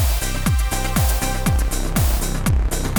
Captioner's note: none